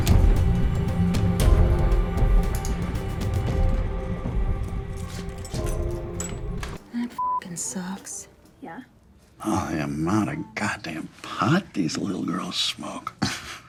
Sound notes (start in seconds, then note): 2.8 techno music fades; 7.1 beep